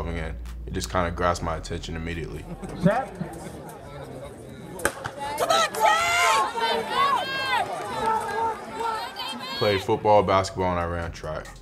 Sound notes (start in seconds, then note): 4.9 starter gun fires